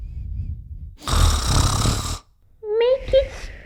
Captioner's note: snoring; snoring!